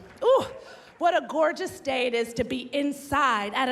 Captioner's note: cheers and applause